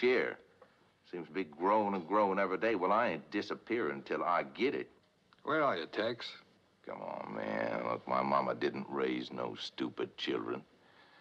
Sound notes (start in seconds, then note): none